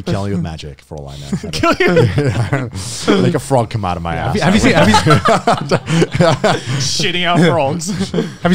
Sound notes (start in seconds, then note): 4.5 everyone laughs